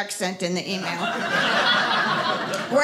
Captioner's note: audience laughing